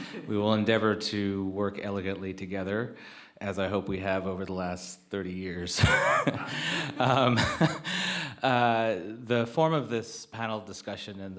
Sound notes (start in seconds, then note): 5.8 chuckles